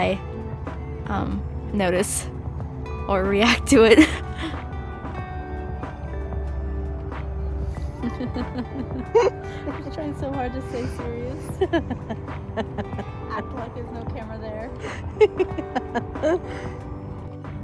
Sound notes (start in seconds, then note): 7.8 laughs; 11.5 laughs; 17.4 laughs